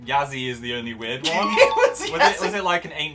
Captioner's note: laughing